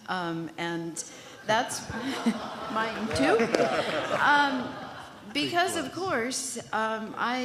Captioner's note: laughter